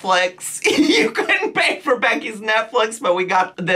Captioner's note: laughing